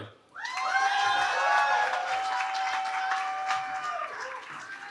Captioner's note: cheering